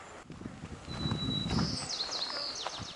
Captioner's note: birds happily chirping